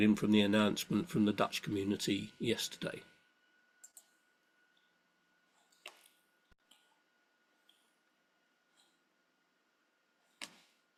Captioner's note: silent pause